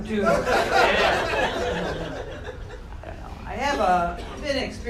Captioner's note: audience laughing